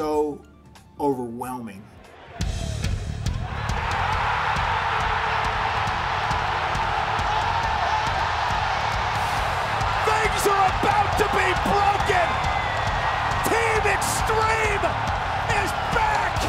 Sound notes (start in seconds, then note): 3.5 applause; 12.7 applause